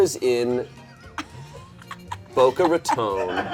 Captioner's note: people snickering; people laughing in the background